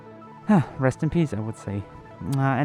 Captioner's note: sighs